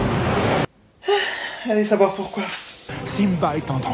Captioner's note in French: soupir